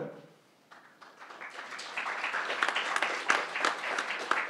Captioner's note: crowd applauding